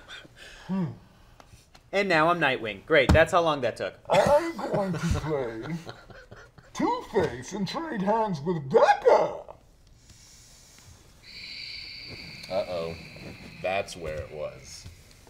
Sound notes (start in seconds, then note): 11.2 sighs